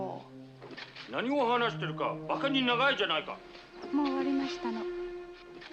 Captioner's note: speaking japanese